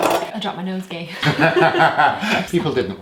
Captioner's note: laughing